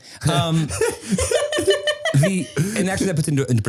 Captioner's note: laughing